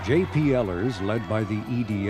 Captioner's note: crowd cheering